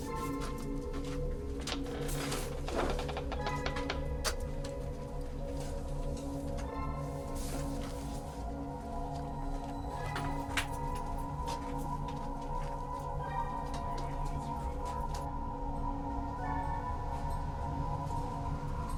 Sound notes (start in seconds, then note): 1.7 puerta cruje; 4.8 ominosa de la música